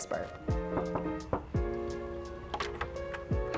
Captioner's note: soft knocking